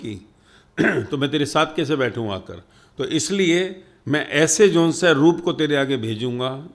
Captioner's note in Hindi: गला साफ़ करने की आवाज़